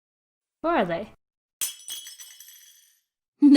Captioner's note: crash